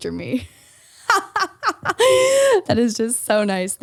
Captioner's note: laughing